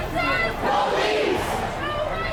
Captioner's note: crowd